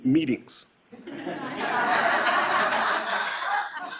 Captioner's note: laughing